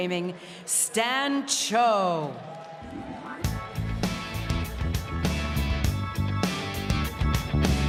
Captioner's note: speaking french